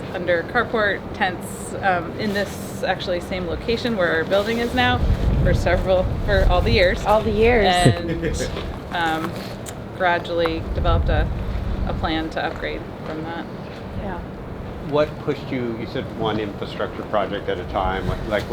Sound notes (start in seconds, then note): 7.6 interviewer chuckles